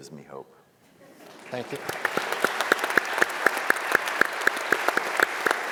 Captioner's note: audience applauding